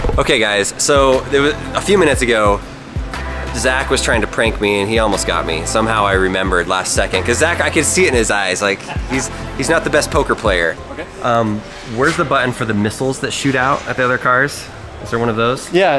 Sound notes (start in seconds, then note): 8.6 laughs